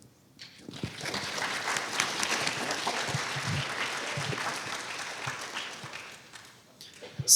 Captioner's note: applause